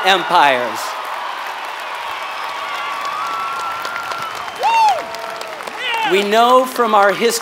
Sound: applause

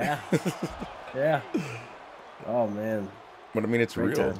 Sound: laugh

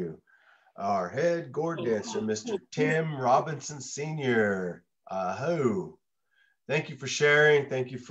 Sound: speaks in native language

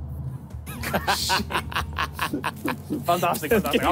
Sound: laughing

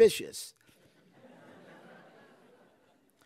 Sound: laughter

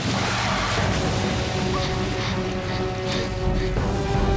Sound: panting

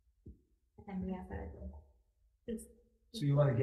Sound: committee members murmur

